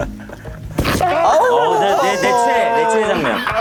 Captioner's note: bump